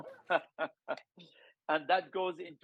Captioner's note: Daniel chuckling